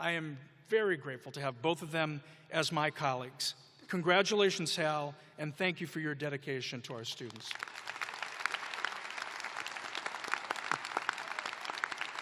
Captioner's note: applause